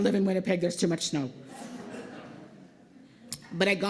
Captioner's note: laughter